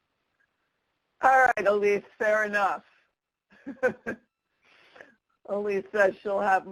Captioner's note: chuckles